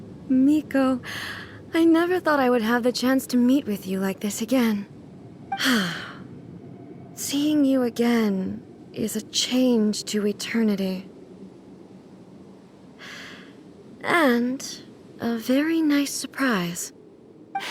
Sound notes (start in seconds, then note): 5.6 sigh